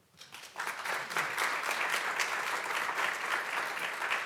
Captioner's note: audience clapping